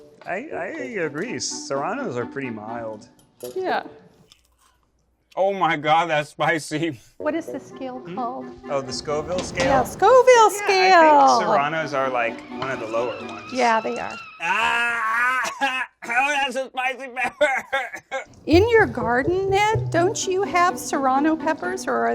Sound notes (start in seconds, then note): 14.5 screams; 17.9 coughs